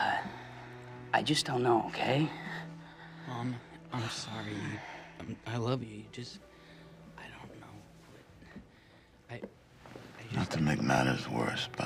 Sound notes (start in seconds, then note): none